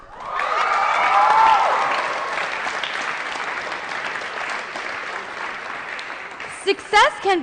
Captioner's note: applause & Cheering